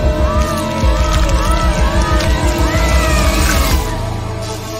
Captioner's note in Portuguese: gritos